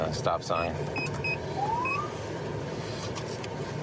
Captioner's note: siren chirps